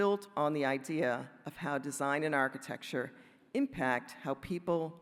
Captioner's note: none